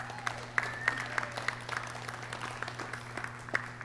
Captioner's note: clapping